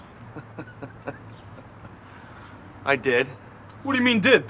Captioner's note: laughs